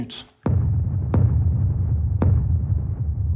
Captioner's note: guns booming